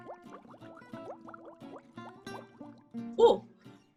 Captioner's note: bubbling